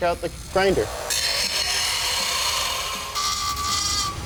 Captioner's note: grinder grinding